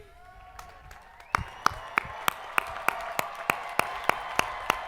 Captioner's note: crowd applauding